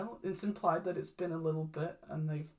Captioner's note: none